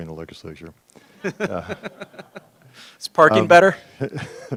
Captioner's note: laughter